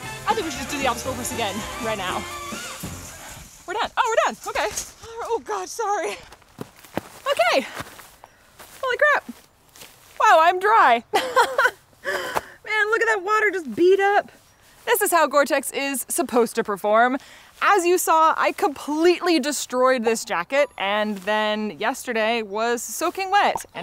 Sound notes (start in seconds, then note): 11.1 laughs